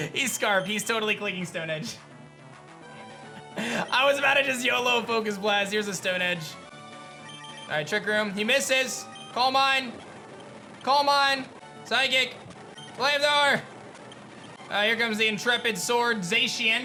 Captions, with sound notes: He's Scarf. He's totally clicking Stone Edge. (giggles) I was about to just YOLO a Focus Blast. Here's a Stone Edge. All right. Trick Room. He misses. Calm Mind. Calm Mind. Psychic. Flamethrower. All right. Here comes the Intrepid Sword Zacian